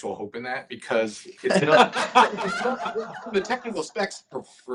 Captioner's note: laughter